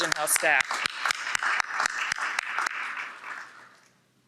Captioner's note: audience applauding